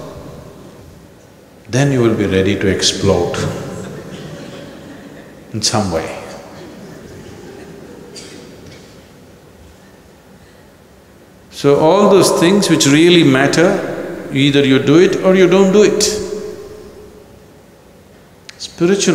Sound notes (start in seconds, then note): 6.5 laughter; 9.9 laughs